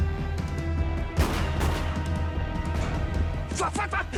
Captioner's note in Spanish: Disparos